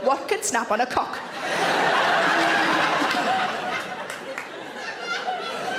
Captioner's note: audience laughs